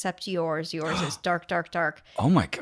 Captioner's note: gasp